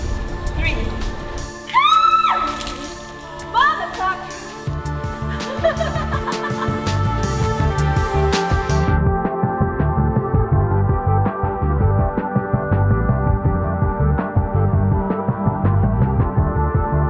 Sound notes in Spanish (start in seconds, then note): 1.8 gritando; 5.3 la risa; 7.1 música emocionante